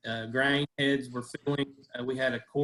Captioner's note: audio is choppy